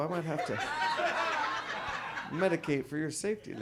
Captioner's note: audience laughs